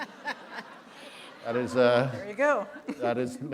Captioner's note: laughter